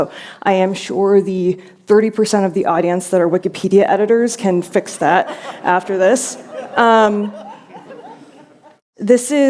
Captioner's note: laughter